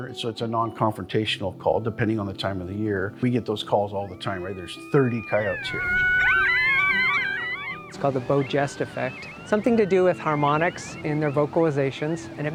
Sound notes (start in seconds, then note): 5.9 coyotes calling